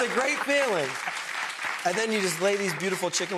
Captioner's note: audience claps